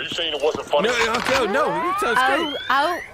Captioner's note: aggressively; gun-charging noises